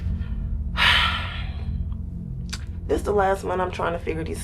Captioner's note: sighs